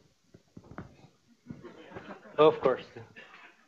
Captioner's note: laughter